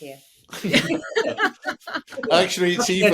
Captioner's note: all laughing